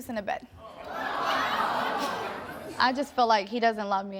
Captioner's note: audience groans